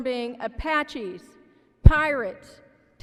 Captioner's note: none